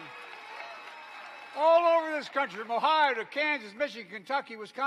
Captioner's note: applause